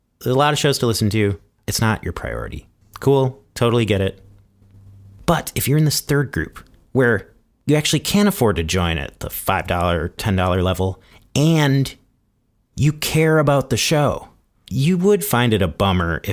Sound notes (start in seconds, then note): none